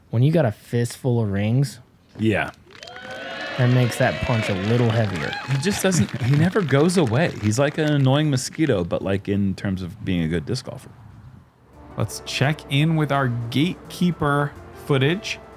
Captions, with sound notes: When you got a fist full of rings, it makes that punch a little heavier. [cheering] -He never goes away. He's like an annoying mosquito, but in terms of being a good disc golfer. -Let's check in with our Gatekeeper footage.